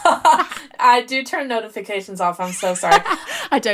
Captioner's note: laughing